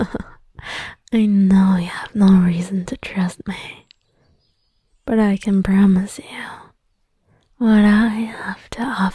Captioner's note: chuckles indulgently